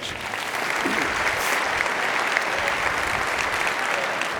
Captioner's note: audience applauding